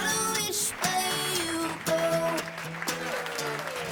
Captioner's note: audience applauding